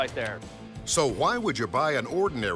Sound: voiceover

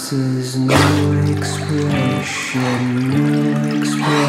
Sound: panting

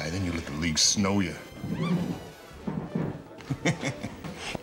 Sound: laughing

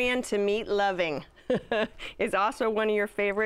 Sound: laughs

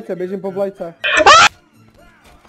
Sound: screaming

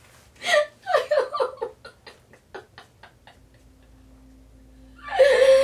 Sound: crying

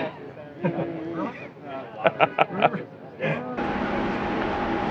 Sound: Jason laughs

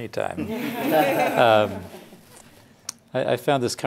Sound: laughing

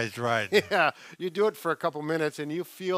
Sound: chuckles

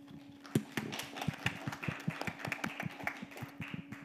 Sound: audience applauding

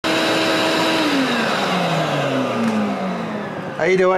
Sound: vacuum motor running

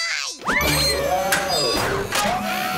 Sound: hydraulics whirring

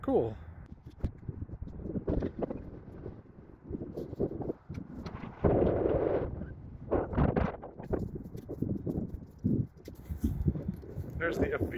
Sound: wind whistling

